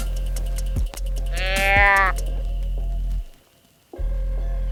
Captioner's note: deer calling